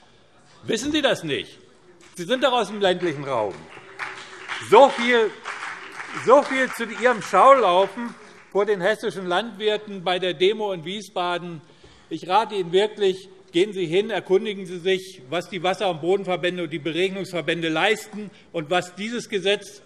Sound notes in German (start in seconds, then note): 2.0 Beifall BÜNDNIS 90/DIE GRÜNEN und CDU - Zurufe Freie Demokraten